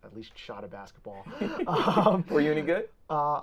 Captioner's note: both laughing